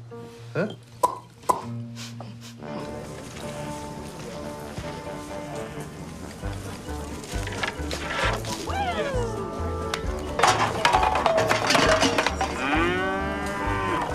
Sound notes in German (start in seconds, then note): 1.4 Er schnalzt hörbar; 2.8 Lebhafte Musik; 10.1 Scheppern